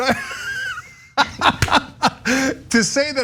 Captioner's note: laugh